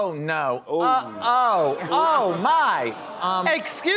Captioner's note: audience exclaims